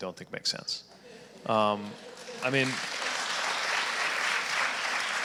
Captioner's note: audience applauding